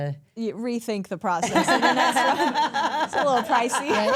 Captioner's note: all laugh